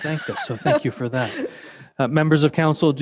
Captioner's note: laughing